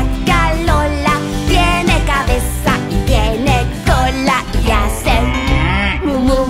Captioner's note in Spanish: Sonido de vaca